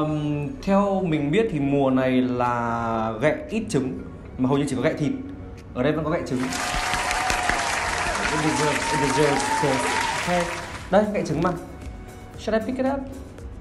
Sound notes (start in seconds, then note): 9.3 clap